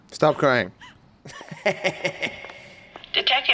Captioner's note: laughs evilly